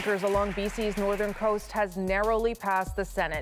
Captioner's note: applause